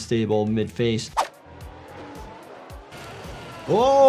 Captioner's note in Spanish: el motor ruge